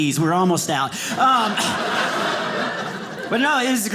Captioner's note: audience laughing